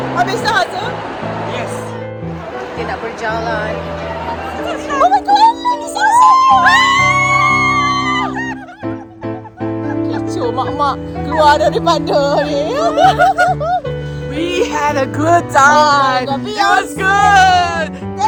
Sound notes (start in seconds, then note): 8.5 scream; 9.4 laugh; 13.8 laugh